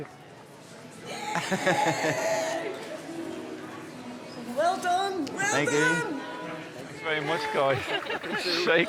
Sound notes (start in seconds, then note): 1.8 man chuckling